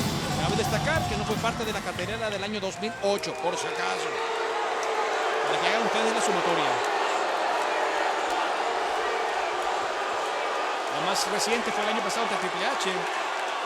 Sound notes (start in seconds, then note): 7.0 applause